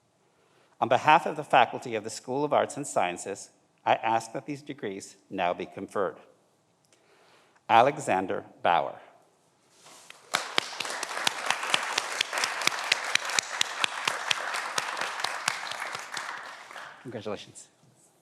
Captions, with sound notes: On behalf of the faculty of the School of Arts and Sciences, I ask that these degrees now be conferred. Alexander Bauer. (everyone applauds) Congratulations.